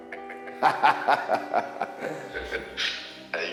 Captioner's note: laughs